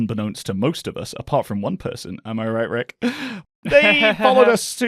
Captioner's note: chuckles sarcastically